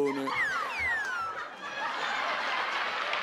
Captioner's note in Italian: risate del pubblico